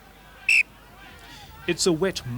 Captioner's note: whistle blows